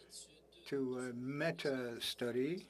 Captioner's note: speaking French